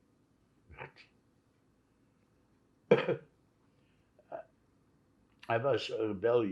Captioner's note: coughing; throat-sound